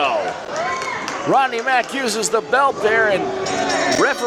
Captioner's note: bell rings